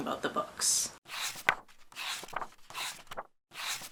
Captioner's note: pages turning